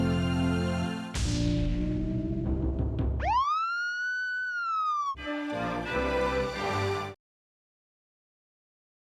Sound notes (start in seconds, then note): 0.0 upbeat music continues; 3.2 police siren screaming; 5.3 upbeat tones